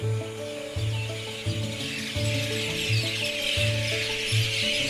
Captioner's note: birds chirping